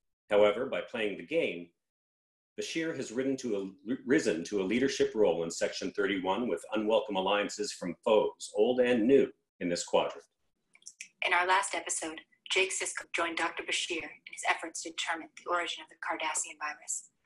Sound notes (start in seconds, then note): none